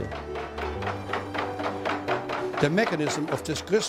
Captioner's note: mill sounds